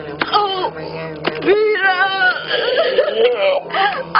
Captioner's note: guuuurrhhh